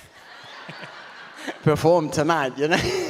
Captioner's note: audience laughs